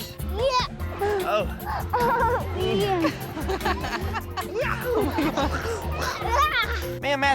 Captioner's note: laughing